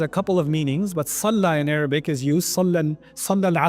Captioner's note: Arabic